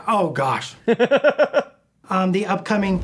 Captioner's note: laughter